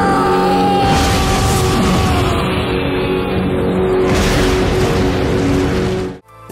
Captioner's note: crashing